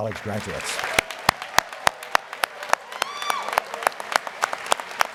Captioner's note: audience cheers and applauds